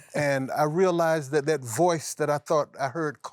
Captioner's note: laughs